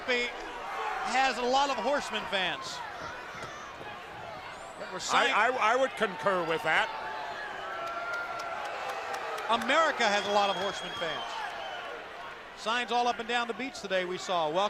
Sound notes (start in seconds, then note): 7.4 crowd cheering